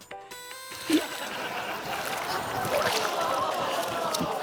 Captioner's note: laughter